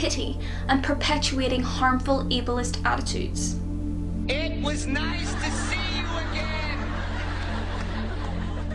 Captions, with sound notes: pity and perpetuating harmful ableist attitudes [Yells] it was nice to see you again!